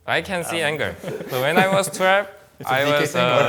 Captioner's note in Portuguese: risos